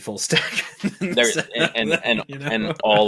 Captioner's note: laughs